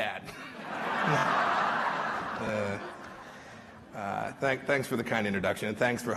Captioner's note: laughter